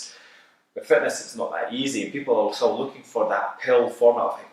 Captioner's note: none